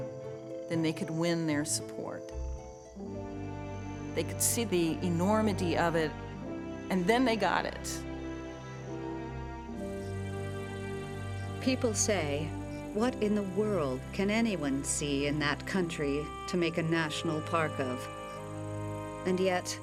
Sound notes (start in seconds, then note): 10.0 insects chirping